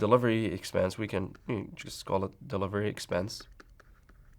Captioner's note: writing sounds